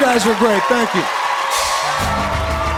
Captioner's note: cheers and applause